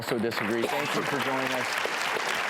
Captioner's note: applause